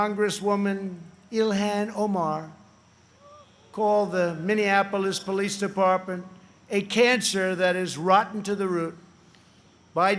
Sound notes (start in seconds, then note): none